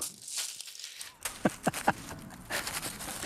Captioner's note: he laughs, rustling